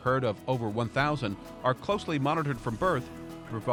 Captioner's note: voiceover